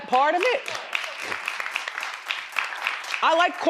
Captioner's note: crowd applauding